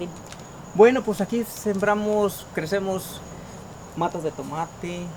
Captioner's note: speaking Spanish language